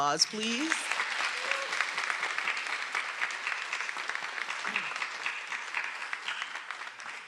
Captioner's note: everyone applauding; attendee cheering